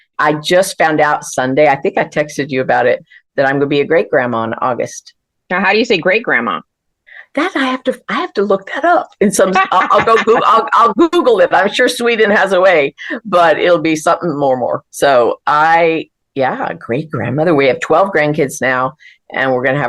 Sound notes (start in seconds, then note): 9.4 laughter